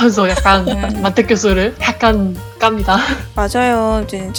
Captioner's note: laugh; laugh